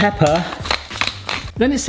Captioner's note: pepper mill crunching